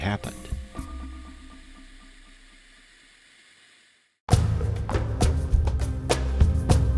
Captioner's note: suspenseful music; aircraft droning